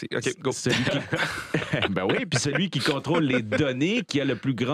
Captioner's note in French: rires